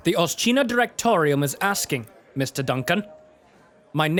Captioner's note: none